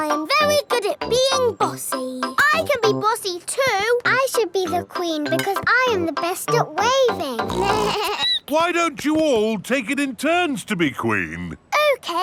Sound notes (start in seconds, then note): 7.4 snorts; 7.4 bleats